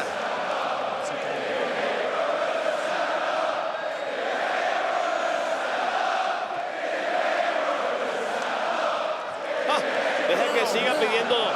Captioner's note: applause